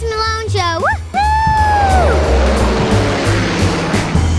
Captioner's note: engine humming